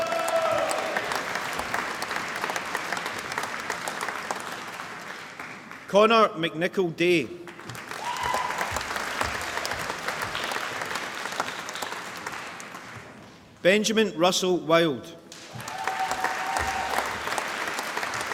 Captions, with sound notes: (APPLAUSE) Connor McNicol-Day (APPLAUSE) Benjamin Russell Wilde (APPLAUSE)